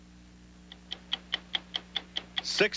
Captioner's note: clock ticking